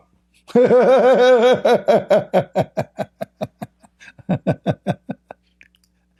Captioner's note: Ketawa